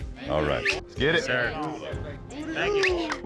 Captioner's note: all chattering